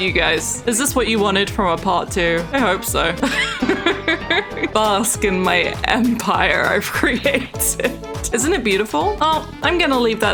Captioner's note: laughs